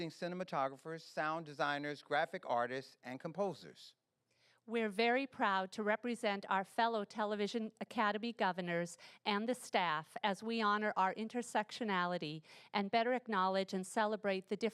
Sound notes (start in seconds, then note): none